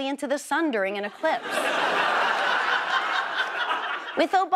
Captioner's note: audience laughs